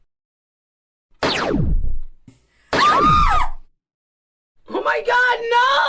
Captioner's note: Misty and Kristy yelp; laser gun fires